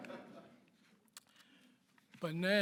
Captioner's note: audience laughs